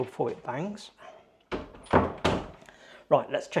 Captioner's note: door clunking